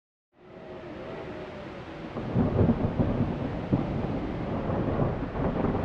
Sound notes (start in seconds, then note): 0.4 wind howling; 1.8 thunder roaring